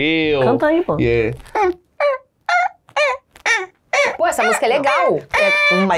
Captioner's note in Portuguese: cantarolando